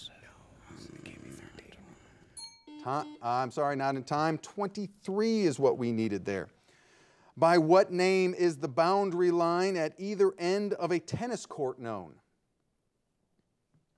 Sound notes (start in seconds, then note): 2.4 buzzer beeping